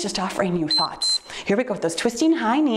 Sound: timer beeps

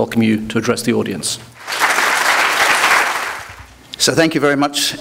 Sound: applause

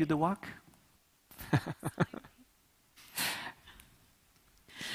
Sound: laughs

